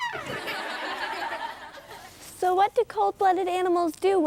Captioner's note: laughter